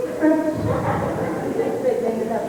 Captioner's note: laughter